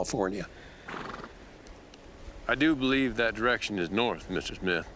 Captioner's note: horse blusters